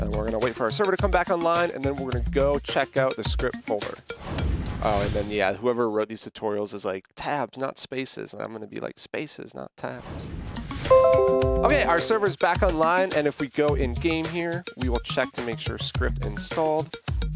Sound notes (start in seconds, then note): 10.9 computer chimes